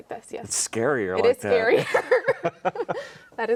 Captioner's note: both chuckling